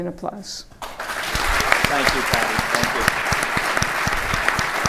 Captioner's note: audience applauds